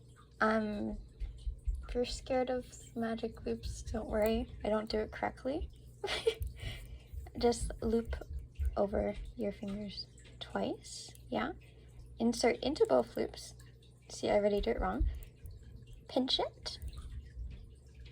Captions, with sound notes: Uhm, if you're scared of magic loops don't worry, I don't do it correctly? [giggle] Just loop over your fingers twice, yeah? Insert into both loops- see I already do it wrong, pinch it.